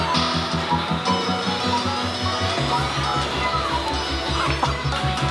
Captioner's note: claw machine noises